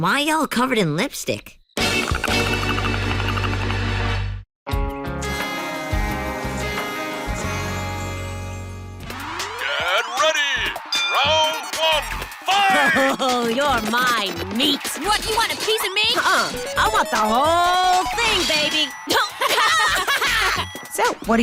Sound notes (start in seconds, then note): 2.1 teeth chattering; 19.2 both laughing